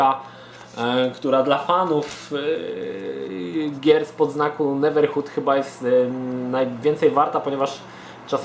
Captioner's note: stutters